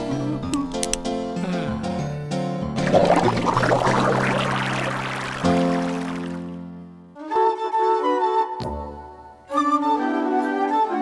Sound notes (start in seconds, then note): 2.8 water splashing; 8.3 happy music